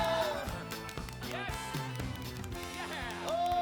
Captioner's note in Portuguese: clapping